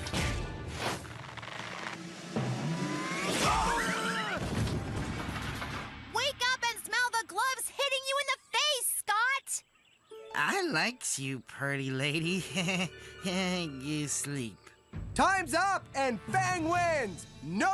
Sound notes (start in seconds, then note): 3.4 Scott Screaming, Thudding; 12.3 giggling